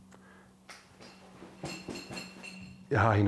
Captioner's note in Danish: Flaske klir